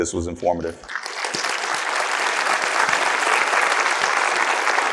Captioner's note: attendees applauding